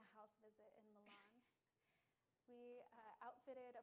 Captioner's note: laughs